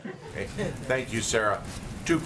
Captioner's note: laughter